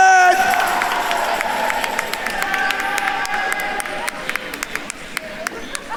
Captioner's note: attendees cheering and applauding